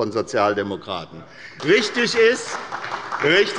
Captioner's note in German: Beifall bei der SPD